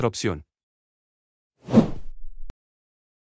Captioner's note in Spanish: FX - Whoosh - 03